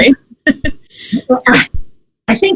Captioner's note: laughs